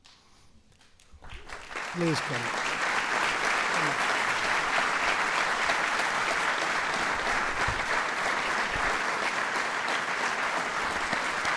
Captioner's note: applause